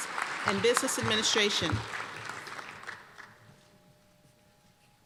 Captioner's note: applause